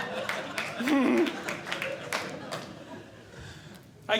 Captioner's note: audience Laughing; laughs